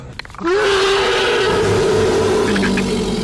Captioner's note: Predator screeching